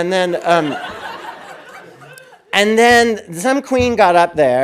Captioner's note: audience laughing